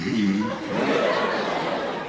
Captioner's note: audience laughing; snore sound